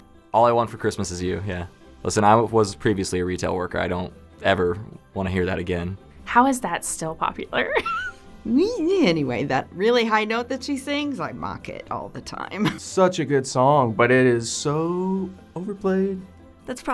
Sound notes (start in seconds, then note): 8.2 laughs